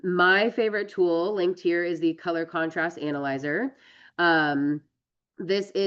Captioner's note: none